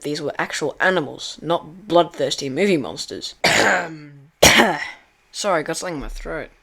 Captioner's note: coughs